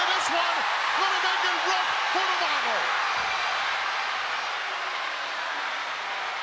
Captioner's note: crowd cheering drowns out commentator